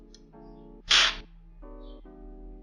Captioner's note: slurping